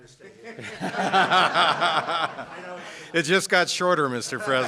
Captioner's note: laughter